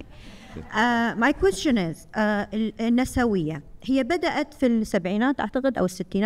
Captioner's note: speaking foreign language